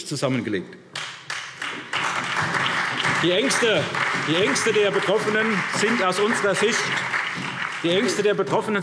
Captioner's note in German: Beifall SPD und DIE LINKE